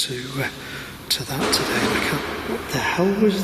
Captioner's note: banging